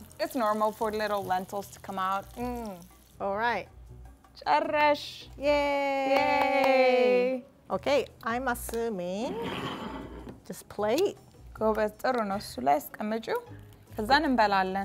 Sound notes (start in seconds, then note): 4.9 speaking Amharic; 11.6 speaking Amharic